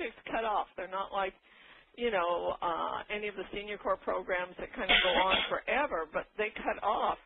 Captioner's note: coughing